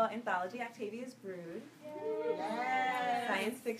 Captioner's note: audience cheers